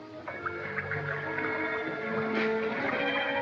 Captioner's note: none